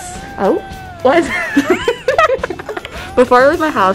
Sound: laughing

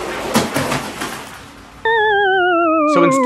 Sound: water splashing

